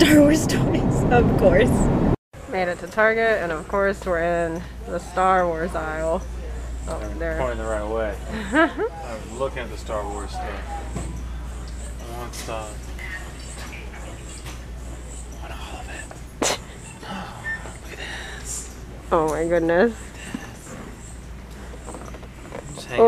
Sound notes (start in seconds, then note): 8.3 laughs; 16.9 gasps